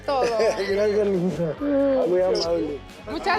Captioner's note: laughs